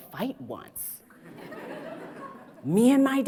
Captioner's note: audience laughs